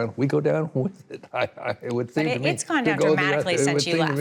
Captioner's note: laughs